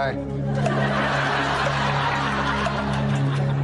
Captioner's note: laughter